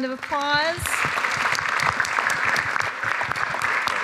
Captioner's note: applause